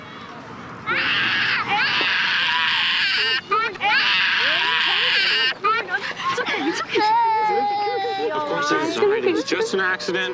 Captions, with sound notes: (WAILING) It's okay. It's okay. You all right? Just an accident.